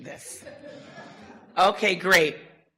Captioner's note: audience laughter